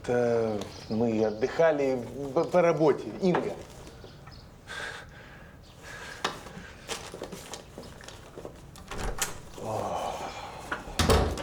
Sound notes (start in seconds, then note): 9.5 sighs